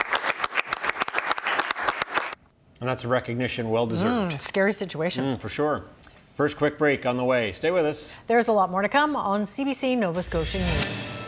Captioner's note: applause